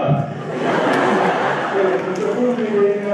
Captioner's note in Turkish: Öğrencilerin kahkaha sesileri